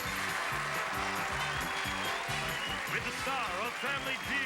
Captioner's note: audience applauding